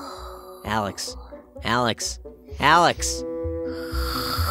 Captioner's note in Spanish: hablando normal